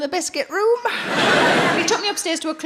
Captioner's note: audience laughing